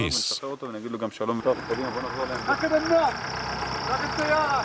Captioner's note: Hebrew spoken audio